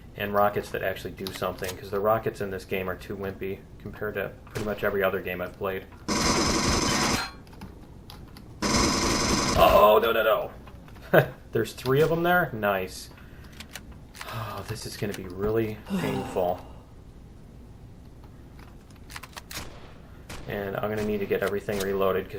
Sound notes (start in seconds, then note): 6.1 pulse rifle; 6.1 incoming shots; 8.0 pinging; 8.6 pulse rifle; 14.1 weapons click; 15.8 sighs; 19.3 turret shots